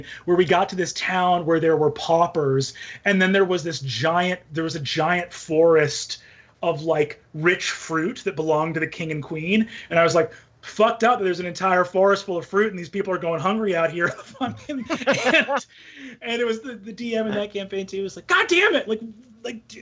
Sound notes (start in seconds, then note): 14.0 all laughing